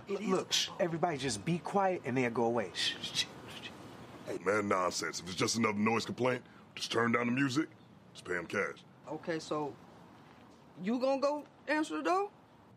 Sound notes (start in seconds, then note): 2.8 everyone shushing